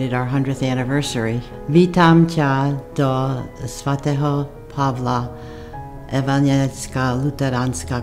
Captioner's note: speaking Czechoslovakian